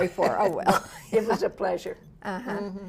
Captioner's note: laughs